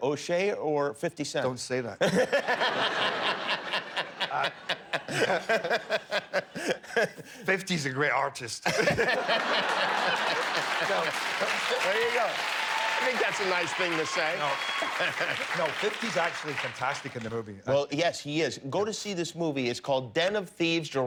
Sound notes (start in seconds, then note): 8.6 laughter; 13.4 applause